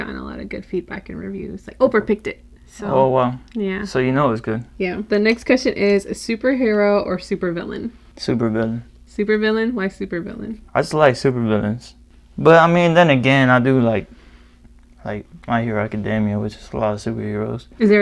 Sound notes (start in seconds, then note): none